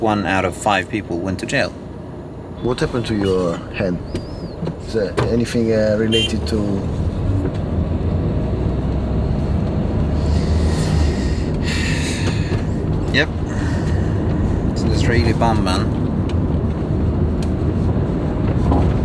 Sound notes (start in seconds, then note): 10.2 sighs